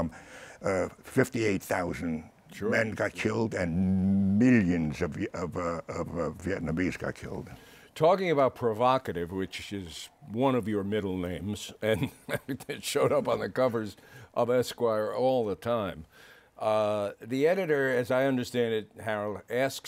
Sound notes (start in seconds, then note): 11.8 chuckles